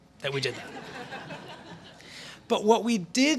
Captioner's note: laughter